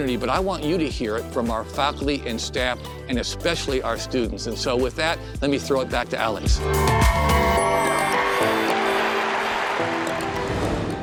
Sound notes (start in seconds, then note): 6.6 students cheering